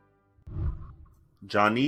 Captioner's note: whooshing